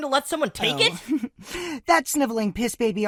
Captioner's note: giggle